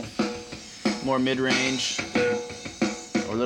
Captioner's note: pitch lowers